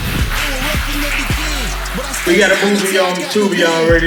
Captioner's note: audience applauding